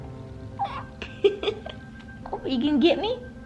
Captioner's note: laughing